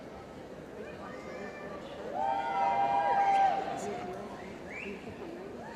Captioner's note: cheering